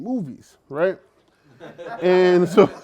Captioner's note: laughter